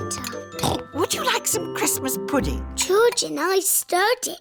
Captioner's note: snorts